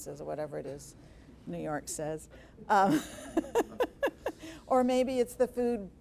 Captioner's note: laughing